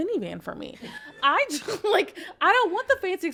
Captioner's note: podcaster chuckling